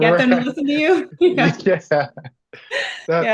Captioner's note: laughs